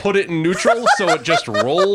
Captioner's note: laughs